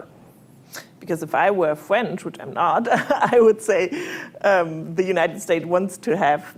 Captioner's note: laughs